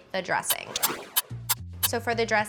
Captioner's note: timer ticking